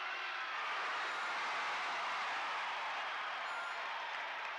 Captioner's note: crowd cheers